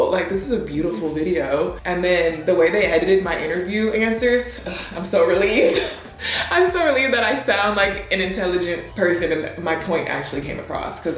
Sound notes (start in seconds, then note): 5.4 laughs; 5.9 gasps